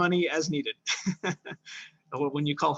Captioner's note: laughs